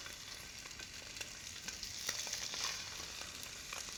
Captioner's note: sizzling